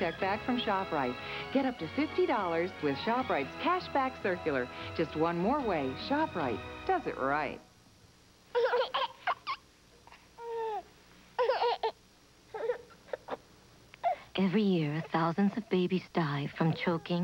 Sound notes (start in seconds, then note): 8.5 baby gurgling